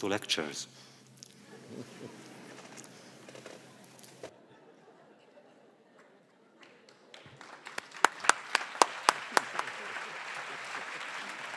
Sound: audience laughter, applause

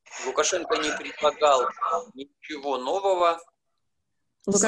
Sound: speaking foreign language

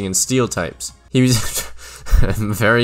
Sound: laughter

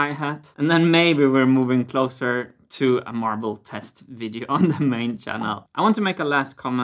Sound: laughs

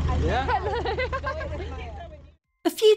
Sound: laughing

